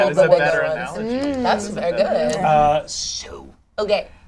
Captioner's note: overlapping chatter